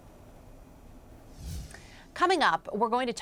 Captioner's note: air whooshing